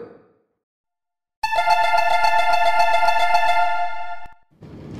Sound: door closing chime

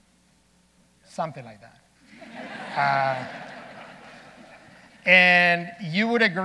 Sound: audience laughing

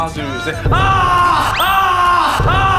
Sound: ahhhh

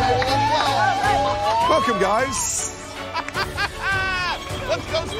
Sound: laughs

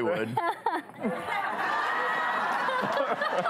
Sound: laughter

